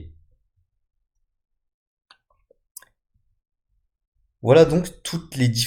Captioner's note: Clic